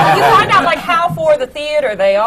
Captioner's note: laughter